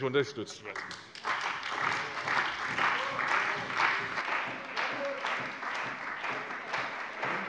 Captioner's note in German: Beifall bei der CDU und dem BÜNDNIS 90/DIE GRÜNEN